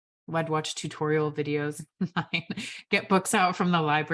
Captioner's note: laughs